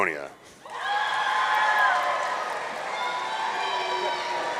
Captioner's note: audience cheering